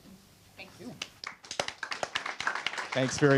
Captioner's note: applause